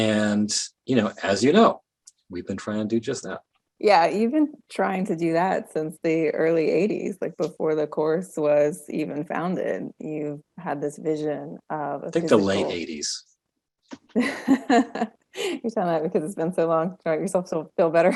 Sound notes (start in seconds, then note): 12.2 laughing; 17.6 laughing